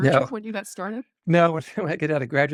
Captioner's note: laughs